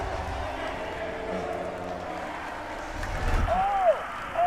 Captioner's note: crowd cheering